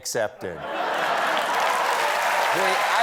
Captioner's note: cheers and applause